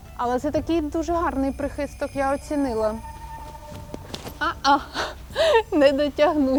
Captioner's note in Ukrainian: сміх